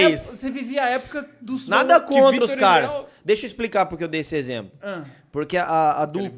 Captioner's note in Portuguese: ficou rindo; fica gaguejando e não conclui a frase; falando ao fundo